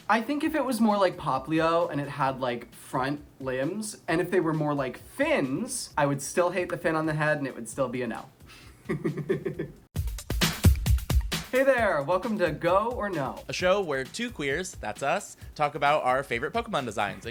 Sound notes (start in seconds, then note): 8.8 laughs; 9.7 intro music